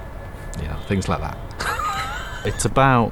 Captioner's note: laughs